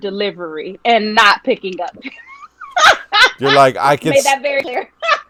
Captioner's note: laughing